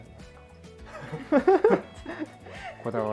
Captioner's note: laughter